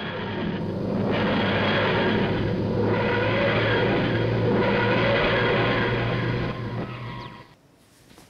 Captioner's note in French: Bruits de TARDIS au décollage